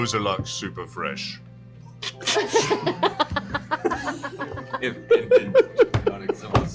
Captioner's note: laughter